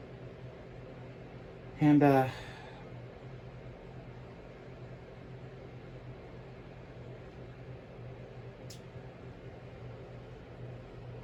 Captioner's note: stammers